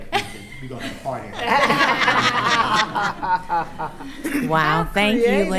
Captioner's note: attendees laughing